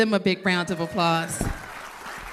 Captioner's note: applause